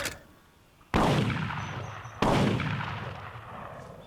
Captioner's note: clicking sound; gunshots fired